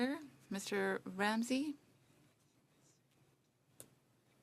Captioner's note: speaking French